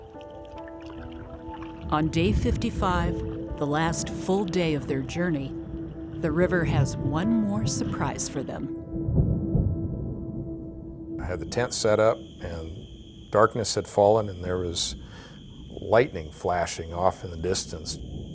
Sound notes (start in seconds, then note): 0.0 water splashing; 9.4 thunder rumbling